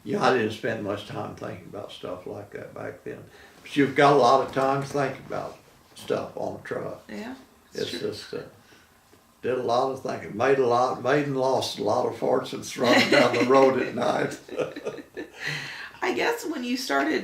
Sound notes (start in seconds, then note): 12.8 laughing